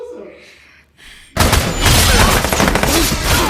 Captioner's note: gunshots